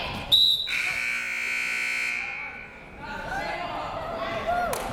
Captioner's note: siren buzzing